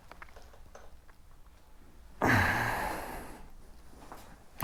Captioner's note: sigh